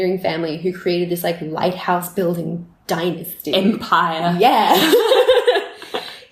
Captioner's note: laughter